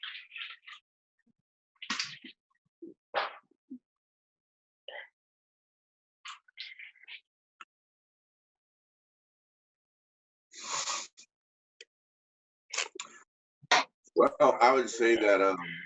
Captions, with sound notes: (both sniffing) Well, I would say that uh,